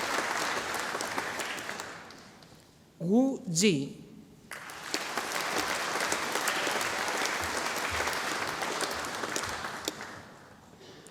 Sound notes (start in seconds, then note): 4.5 audience applauding